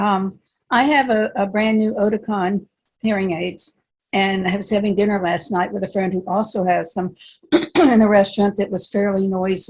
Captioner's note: clear throat - indiscernible